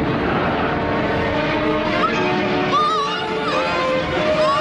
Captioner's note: muffled grunts; muffled screams